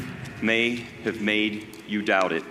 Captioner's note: none